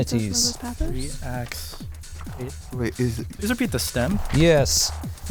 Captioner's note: wispering